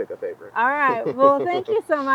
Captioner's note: chuckling